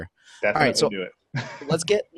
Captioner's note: laughing